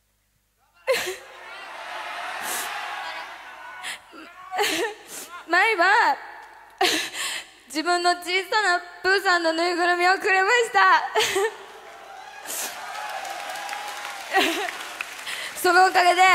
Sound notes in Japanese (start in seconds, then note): 11.1 笑い